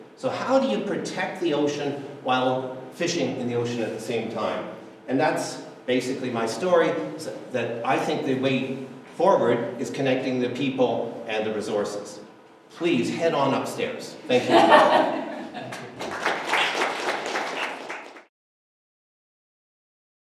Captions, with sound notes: so how do you protect the ocean while fishing in the ocean at the same time? and that's basically my story that I think the way forward is connecting the people and the resources Please head on upstairs. Thank you [audience applause]